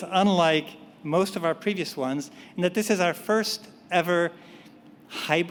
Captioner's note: none